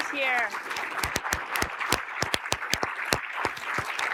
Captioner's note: audience applauding